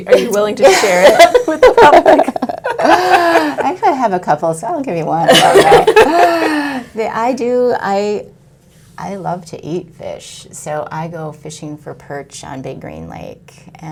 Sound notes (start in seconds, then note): 2.4 laughs; 5.3 laughs